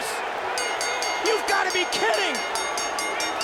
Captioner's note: bell rings